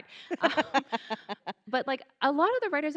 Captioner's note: laughing